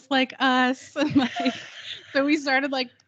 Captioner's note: both giggling